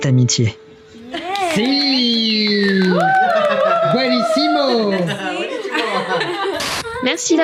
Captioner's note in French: Applaudissements